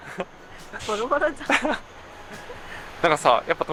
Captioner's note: laughs